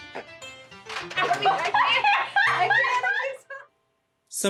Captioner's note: background laughter